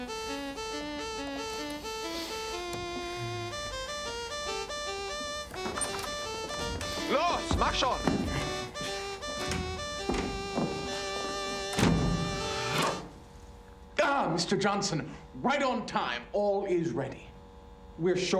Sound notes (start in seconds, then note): 8.1 speaking german